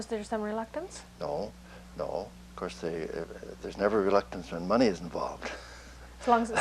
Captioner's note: laughter